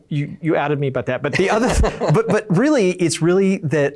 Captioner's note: laughs